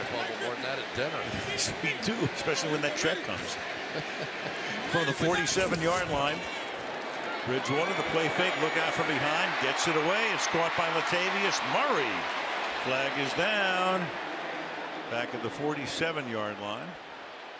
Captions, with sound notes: I've fumbled more than that at dinner. Me too, especially when that check comes. [laughs] From the 47-yard line, Bridgewater, the play fake. Look out from behind. Gets it away. It's caught by Latavius Murray. Flag is down back at the 47-yard line.